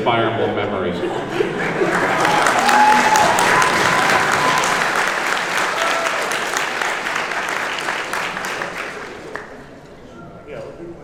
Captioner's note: cheering and applause